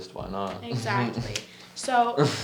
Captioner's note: laughs